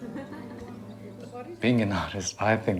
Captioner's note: person chuckling